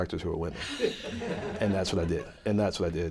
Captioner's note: laughter